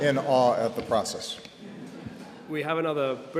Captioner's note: laughter